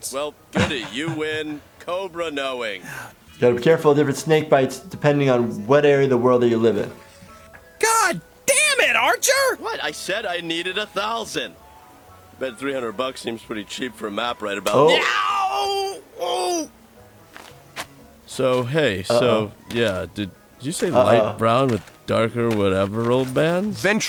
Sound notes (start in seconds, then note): 14.8 Archer screaming in pain